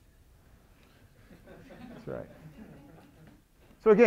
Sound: audience laughing

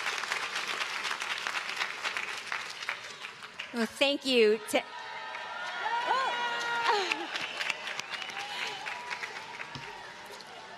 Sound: cheering

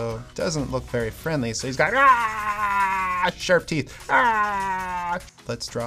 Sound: roar

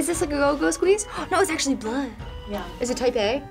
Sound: gasps

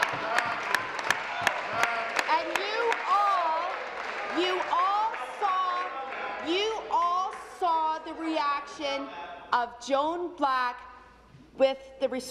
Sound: applause

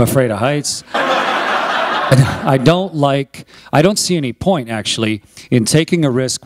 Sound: laughter

